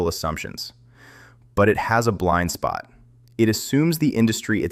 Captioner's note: thoughtful